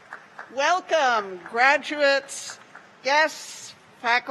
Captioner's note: applause